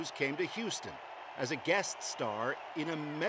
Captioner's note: cheers and applause